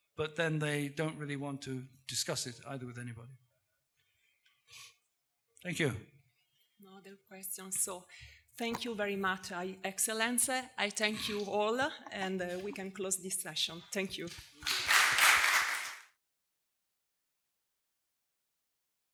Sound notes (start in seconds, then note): 15.1 audience laughing